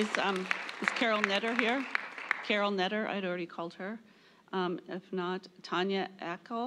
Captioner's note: applause